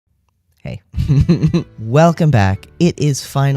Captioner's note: laugh